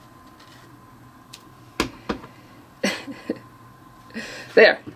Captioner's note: laughing